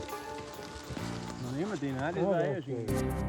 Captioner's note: speaks German